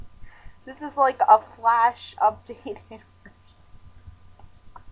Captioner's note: agonizing laughter